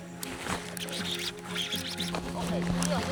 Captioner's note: reeling sound